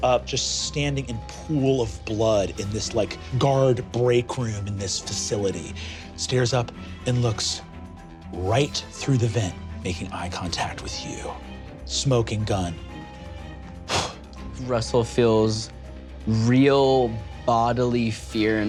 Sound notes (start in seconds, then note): 13.8 exhales sharply